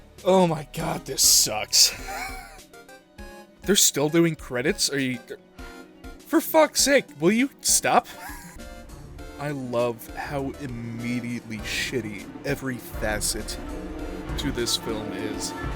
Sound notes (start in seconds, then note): 2.1 wheeze; 8.1 wheeze